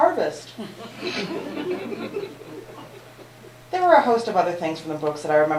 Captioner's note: laughter